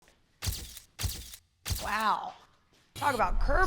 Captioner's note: camera flashing sound